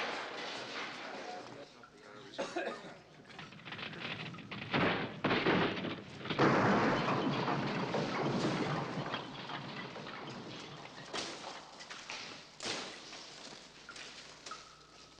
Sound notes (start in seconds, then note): 0.2 coughing; 2.2 clattering